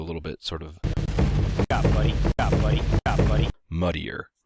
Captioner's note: game sounds